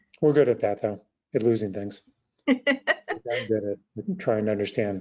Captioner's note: laughing